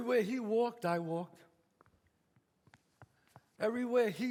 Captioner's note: footsteps